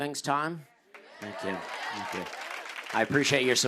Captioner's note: cheers and applause